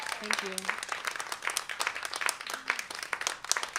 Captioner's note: applause